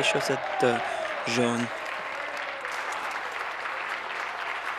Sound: applause

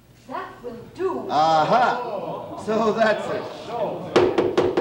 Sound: gavel pounding

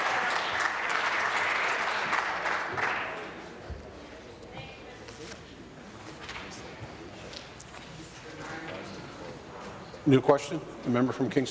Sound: applause

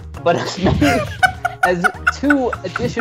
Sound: Dunkey laughs; bursts out laughing

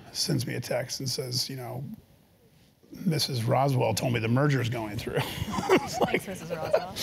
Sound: laugh

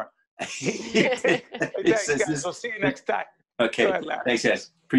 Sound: laughing

